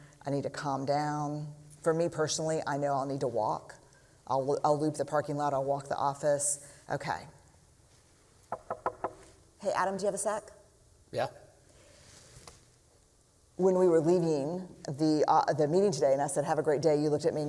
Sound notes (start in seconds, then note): 8.5 knocking